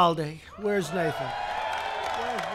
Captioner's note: applause